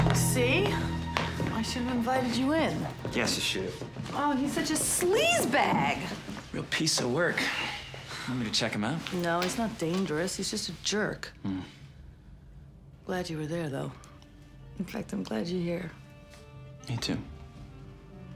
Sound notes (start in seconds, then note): none